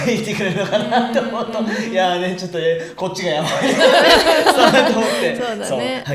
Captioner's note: laughter